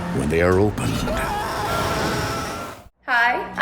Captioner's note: screaming